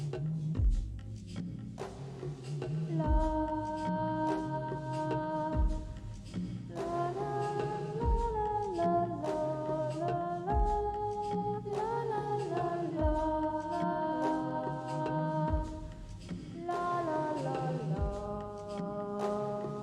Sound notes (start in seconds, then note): 3.0 woman humming